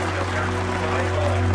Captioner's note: crowd cheering